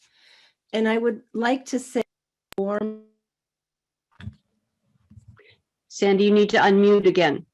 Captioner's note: mic cuts out